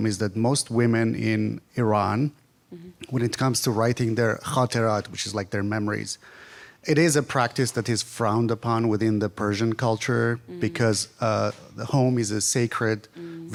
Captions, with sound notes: is that most women in Iran, when it comes to writing their (speaks in foreign language) which is like their memories, it is a practice that is frowned upon within the Persian culture because the home is a sacred,